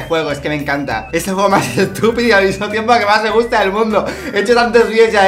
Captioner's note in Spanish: risas